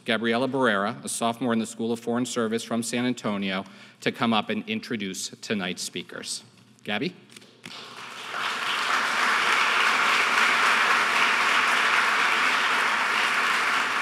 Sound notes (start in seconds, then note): 7.7 audience applauding